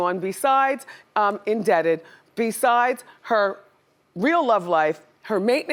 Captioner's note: none